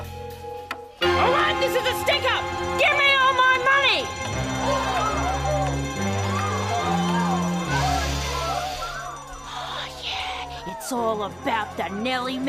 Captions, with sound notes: Alright, this is a stick up! Give me all my money! (Alarms ringing) (People shrieking) Oh, yeah. It's all about the Nelly Melbas.